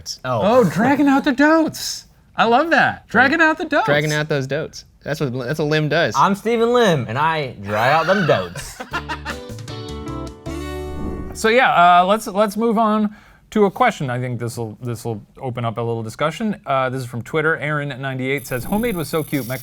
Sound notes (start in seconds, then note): 7.9 upbeat music; 9.3 laughing